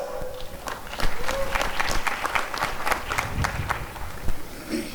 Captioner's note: applause and cheering